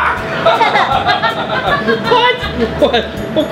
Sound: laughs

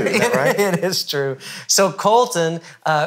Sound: laughing

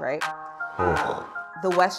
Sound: both exhaling

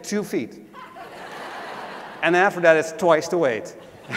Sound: laugh

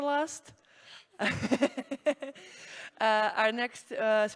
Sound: laughs

